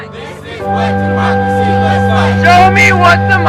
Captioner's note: crowd